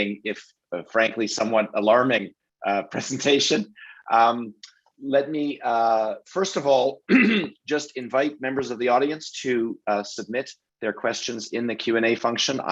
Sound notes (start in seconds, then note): 4.3 laughs; 7.0 clears throat